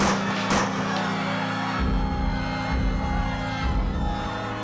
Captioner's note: gunshots; crowd screaming